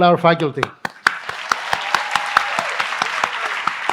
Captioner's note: applause